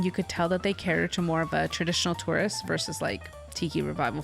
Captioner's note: none